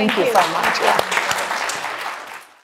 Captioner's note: audience and panel applause